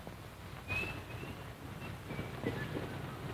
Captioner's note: whistling